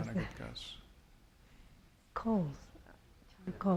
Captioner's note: speaking spanish